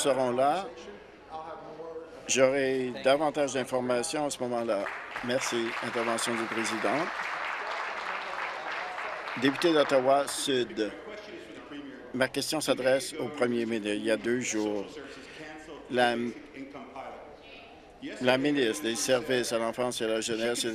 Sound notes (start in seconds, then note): 8.5 applause